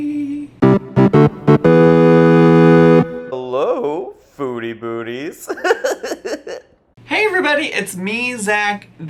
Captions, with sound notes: (retro video game music) - Hello, foodie booties. (giggles) - Hey Everybody! It's me, Zach.